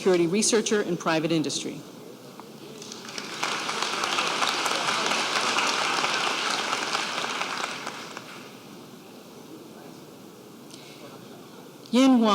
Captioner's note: applause